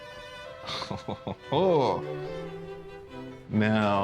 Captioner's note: chuckles